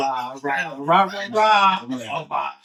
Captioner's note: speaking In Foreign Language